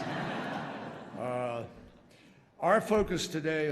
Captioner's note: laughter